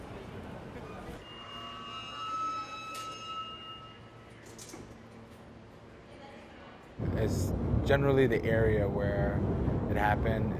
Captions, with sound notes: [machines beeping] [metallic creaking] - It's generally the area where it happened